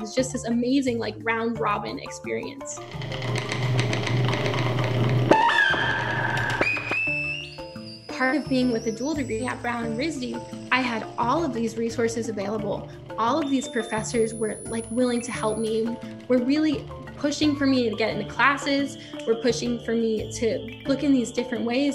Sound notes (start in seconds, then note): 4.6 clicking and buzzing; 4.6 squealing